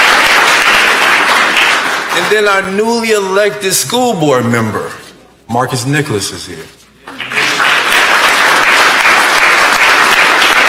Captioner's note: applause